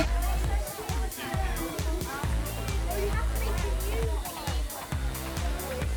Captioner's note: children chatter excitedly